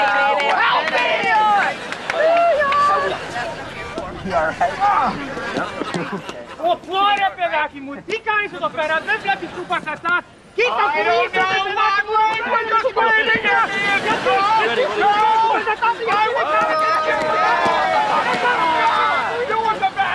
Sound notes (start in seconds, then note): 4.3 grunting; 6.0 speaking foreign language; 15.1 speaking foreign language